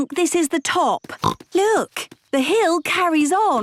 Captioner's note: snorts